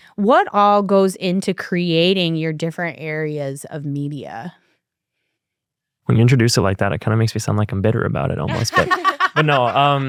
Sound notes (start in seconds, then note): 8.4 laughter